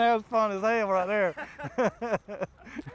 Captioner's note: laughs